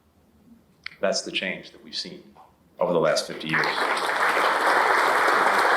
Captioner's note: applause